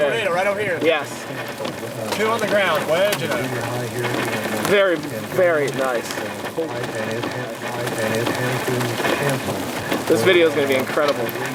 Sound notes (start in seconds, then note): 5.5 hail pattering; 5.5 reporter chattering